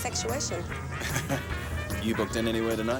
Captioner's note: Graham chuckles